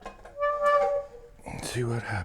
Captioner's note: scraping